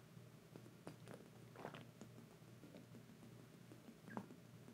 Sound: Jenelle slurping

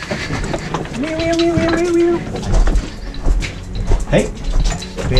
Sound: mimicking alarm

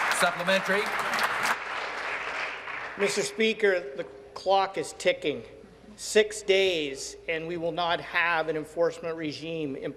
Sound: applause

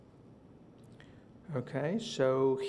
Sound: silence

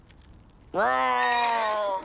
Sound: horses neigh

